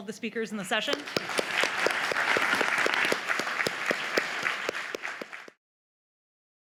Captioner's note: audience applause